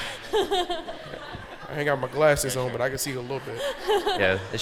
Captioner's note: laughing